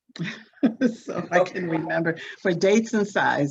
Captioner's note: laughs